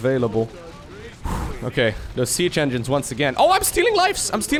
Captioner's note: exhales